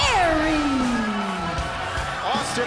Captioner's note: crowd cheering